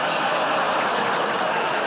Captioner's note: audience groans